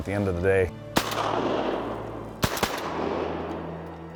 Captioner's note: gun shots